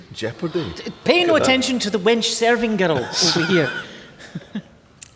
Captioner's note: laughter